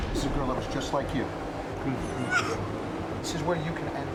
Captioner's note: sobbing